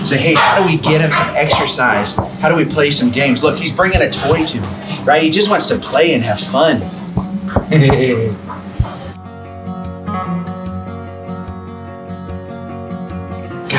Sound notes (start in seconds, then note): 7.5 laughs; 11.1 gentle music continues